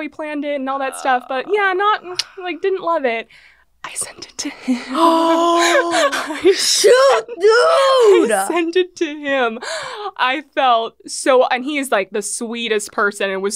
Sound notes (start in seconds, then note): 5.1 gasp